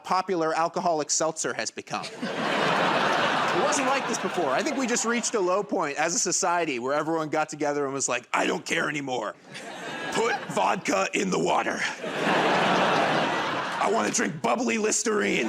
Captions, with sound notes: by how popular alcoholic seltzer has become. [ Laughter and applause ] It wasn't like this before. I think we just reached a low point as a society where everyone got together and was like, "I don't care anymore. Put vodka in the water." [ Laughter ] "I want to drink bubbly Listerine."